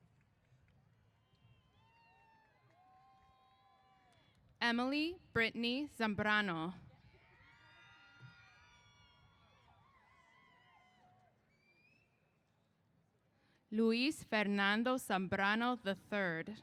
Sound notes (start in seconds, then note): 7.0 cheers